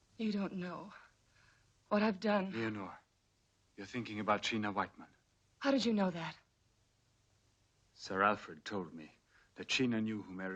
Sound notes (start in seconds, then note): none